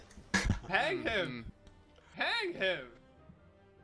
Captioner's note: laughs